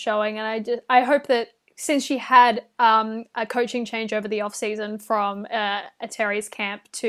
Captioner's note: none